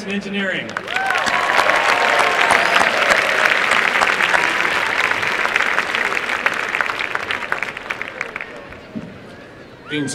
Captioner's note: applause